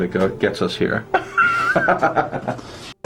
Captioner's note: laughing